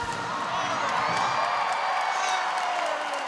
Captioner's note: applause